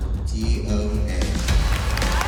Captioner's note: cheering